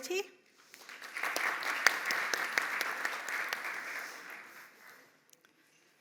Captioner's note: applause